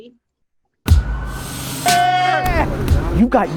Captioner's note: plane engine humming; men chanting